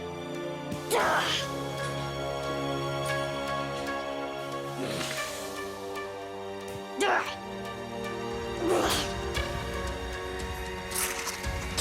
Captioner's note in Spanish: Exclamaciones